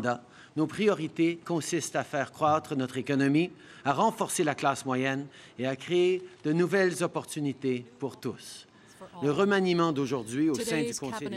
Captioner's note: speaking french